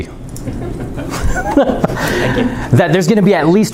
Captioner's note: chuckling